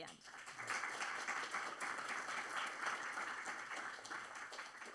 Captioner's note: applause